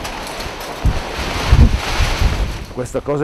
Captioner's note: storm noise